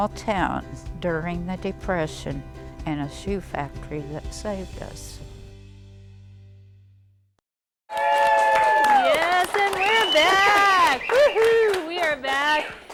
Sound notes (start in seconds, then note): 7.9 cheers and applause